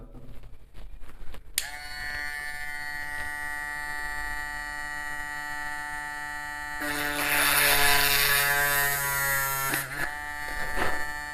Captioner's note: drilling